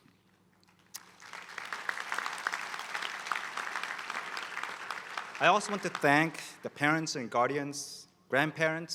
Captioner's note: applause